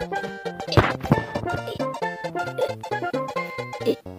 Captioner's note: mario being in pain sound